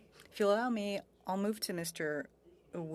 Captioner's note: speaking French